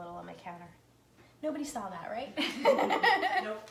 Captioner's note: laughing